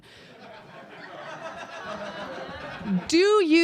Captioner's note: audience laughter swells